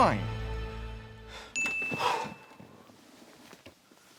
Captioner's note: sighs